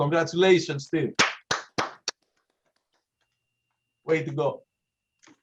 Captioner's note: applause